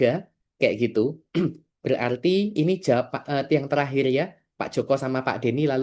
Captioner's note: berdehem